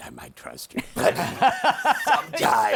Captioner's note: laughter